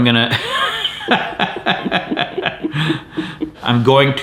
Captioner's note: both laughing